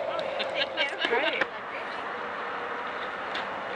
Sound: laughing

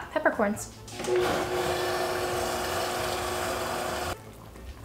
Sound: blending sounds

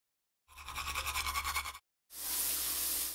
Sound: brushing teeth audio; running water in shower audio

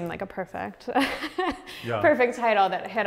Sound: laughs

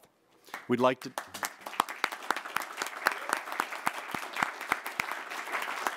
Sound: applause

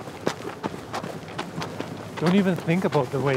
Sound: footsteps continue

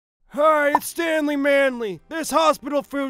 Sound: voiceover

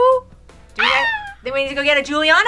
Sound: squeals

